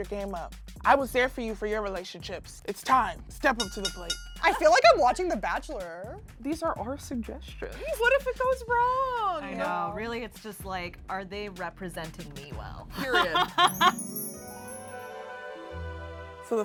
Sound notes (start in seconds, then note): 3.6 bell ringing; 13.6 chime